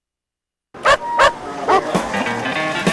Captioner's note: dog barking